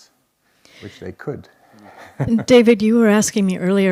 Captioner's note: chuckles